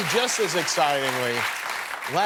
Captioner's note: cheers and applause